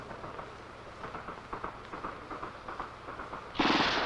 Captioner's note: gun shots